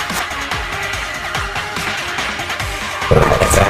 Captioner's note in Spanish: Sonido de Teletransportación